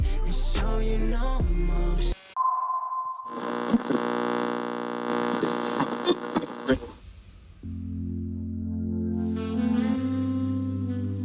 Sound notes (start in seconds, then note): 2.1 music stops abruptly, radar pings, radio whirrs, distorted chatter; 7.6 soft music